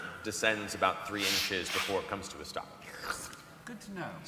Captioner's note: squelch